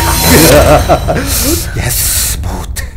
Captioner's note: Giggling